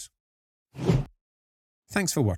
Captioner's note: whoosh